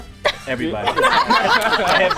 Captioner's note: all laugh